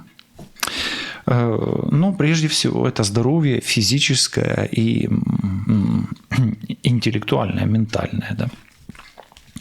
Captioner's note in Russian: откашливается